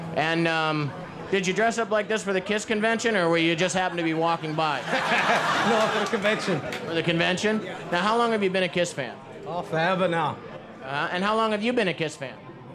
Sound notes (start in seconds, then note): 4.7 laughs